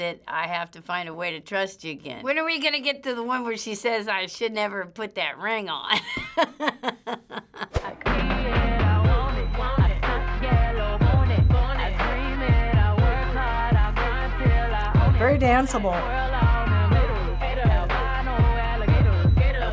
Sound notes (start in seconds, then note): 5.9 laughs